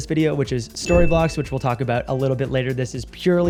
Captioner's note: bell dings